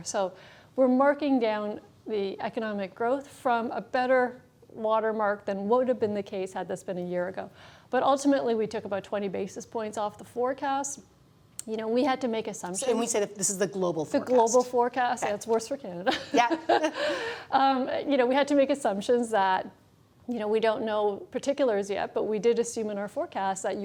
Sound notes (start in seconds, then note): 16.1 laughs